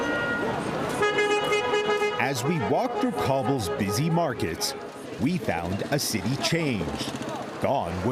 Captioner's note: honking